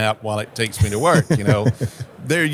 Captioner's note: laughing